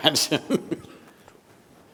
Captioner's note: laughs